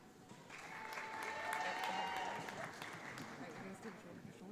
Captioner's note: audience applauds